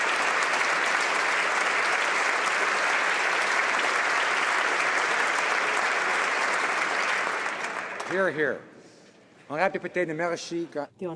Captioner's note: applause